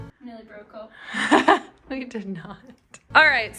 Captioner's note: laughing